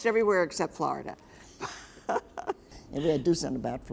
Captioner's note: laughs